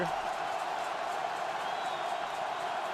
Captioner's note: crowd cheering